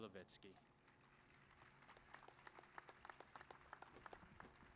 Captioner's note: applause